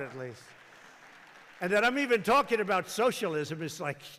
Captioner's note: applause